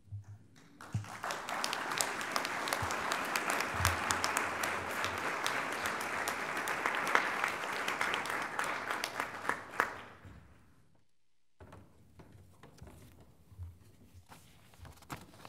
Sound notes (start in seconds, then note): 0.5 applause